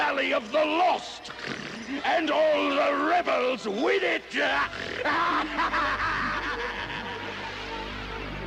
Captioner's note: snort